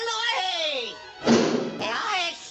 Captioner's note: thud!